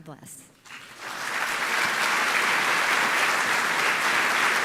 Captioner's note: applause